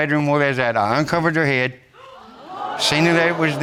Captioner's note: audience gasping